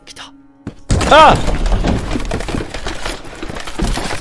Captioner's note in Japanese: 衝突音：ﾄﾞｶﾞｼｬﾝ！